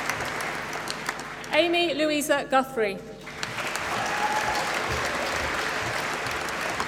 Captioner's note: applause